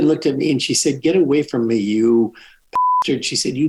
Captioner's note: beeps